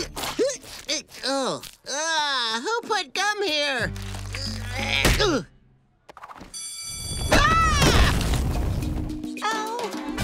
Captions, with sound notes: Oh, ugh, who put gum here? [grunting] [bell ringing] [screaming] Oh!